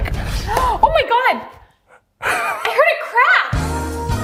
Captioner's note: gasps; upbeat music